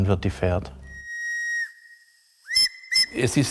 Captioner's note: locomotive whistle